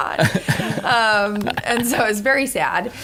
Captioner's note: laughter